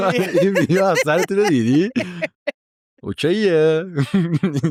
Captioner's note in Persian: خنده